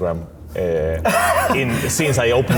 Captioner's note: laughing